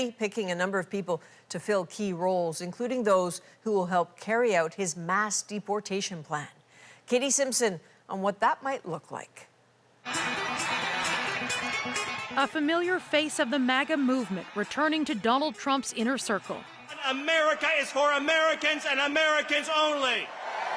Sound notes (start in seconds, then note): 11.9 applause